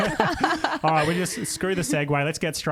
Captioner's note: laughing together